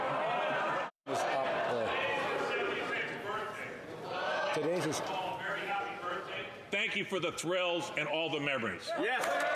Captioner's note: some Laughter